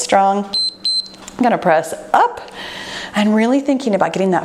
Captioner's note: timer beeps